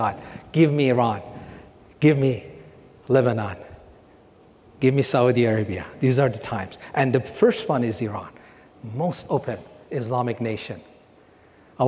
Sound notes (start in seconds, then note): none